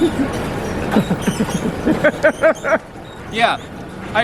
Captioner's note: laugh